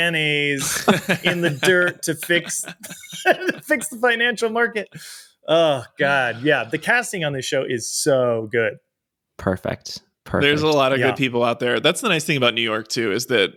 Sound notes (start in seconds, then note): 0.5 laughs; 0.6 charles chuckles